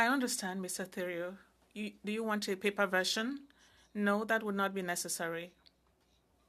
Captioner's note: speaking French